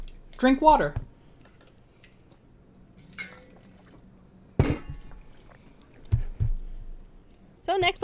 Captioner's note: sounds of water bottles hitting desks